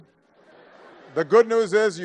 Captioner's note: laughter